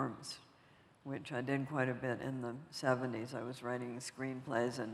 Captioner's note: none